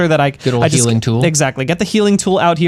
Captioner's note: pat